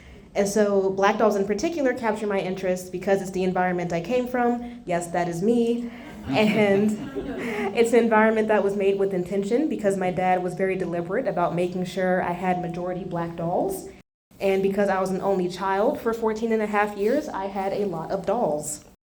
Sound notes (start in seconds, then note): 6.1 laughs